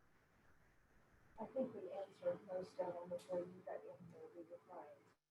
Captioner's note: murmurs